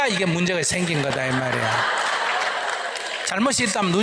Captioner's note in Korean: 청중 웃음